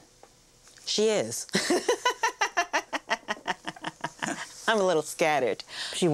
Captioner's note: laughter